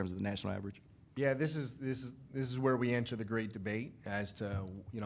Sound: stammers

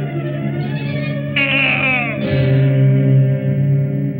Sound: grunts

